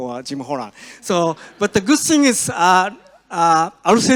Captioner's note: audience laughs